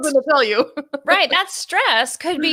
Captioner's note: laughs